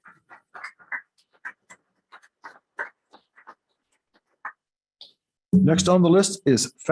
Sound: applause

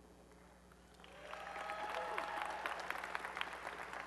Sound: applause and cheering

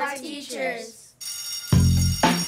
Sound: bell ringing; upbeat music

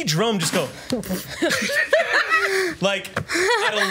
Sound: laughs

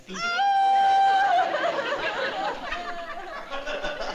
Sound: sobbing

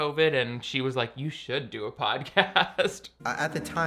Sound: laughing

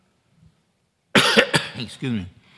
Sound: coughs

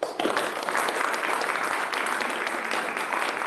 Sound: applause

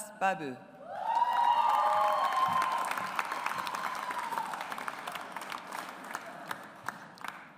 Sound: audience applauds

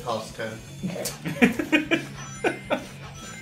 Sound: chuckles

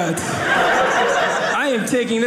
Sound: audience laughing

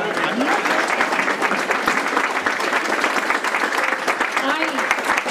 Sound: applause

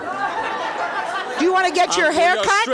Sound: audience laughing

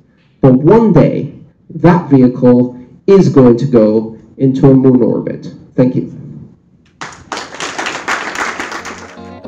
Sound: applause

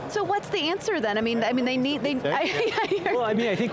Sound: laughs

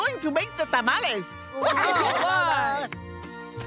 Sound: cheering

